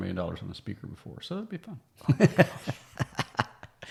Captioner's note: laughing